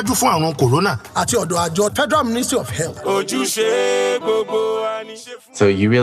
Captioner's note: non-english speech